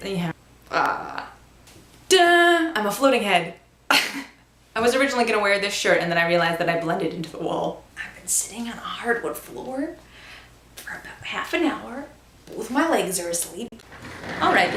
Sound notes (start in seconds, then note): 3.3 laughs